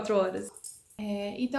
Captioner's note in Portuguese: sininho de gato balançando